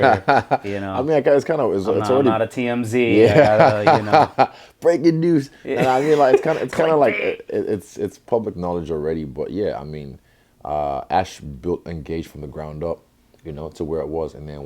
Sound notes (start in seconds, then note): 5.7 laughs